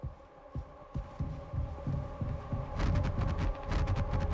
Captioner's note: Curly's footsteps thudding